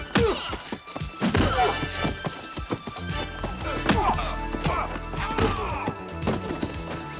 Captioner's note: dramatic music; body thudding; men groaning